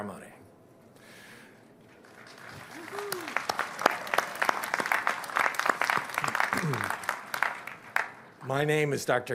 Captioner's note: applause